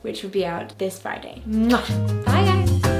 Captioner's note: lips smacking